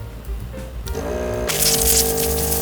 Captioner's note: motor whirring